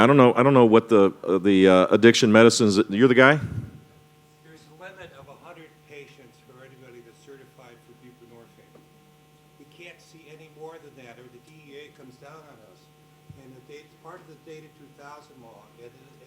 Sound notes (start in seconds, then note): 4.6 voiceover